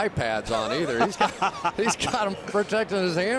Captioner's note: laughs